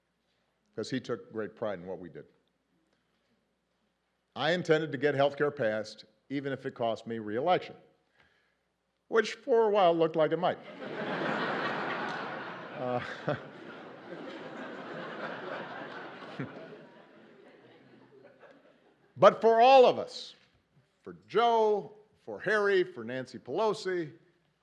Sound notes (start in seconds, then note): 10.6 laughter